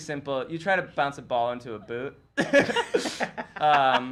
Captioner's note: laughs